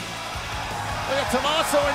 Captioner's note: crowd cheering